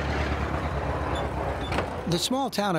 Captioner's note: truck rumbling